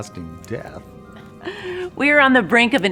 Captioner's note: chuckles